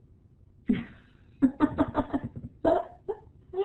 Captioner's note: laughing